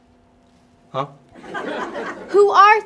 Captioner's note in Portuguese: Risos